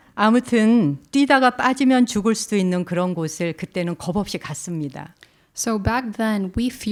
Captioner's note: speaking in Korean